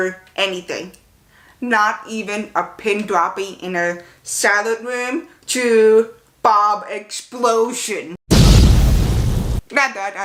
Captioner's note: explosion